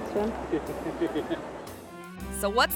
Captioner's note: spectator laughs